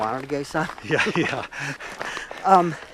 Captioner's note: laughs